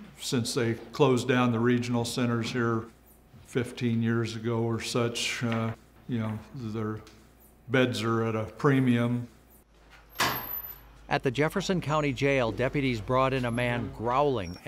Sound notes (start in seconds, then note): none